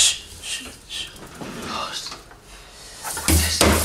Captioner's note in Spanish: susurra